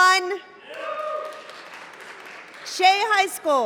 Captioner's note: cheering